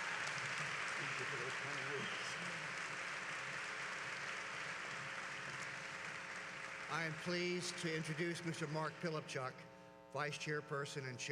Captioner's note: applause